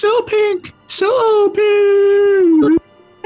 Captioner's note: falsetto